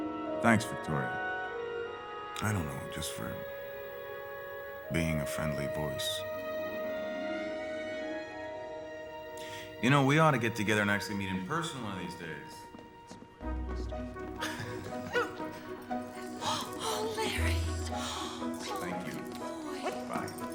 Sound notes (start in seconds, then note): 15.1 dog barks